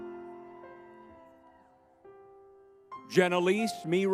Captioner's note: crowd cheering